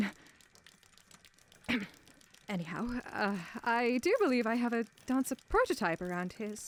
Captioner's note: clears throat